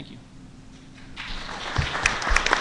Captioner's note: applause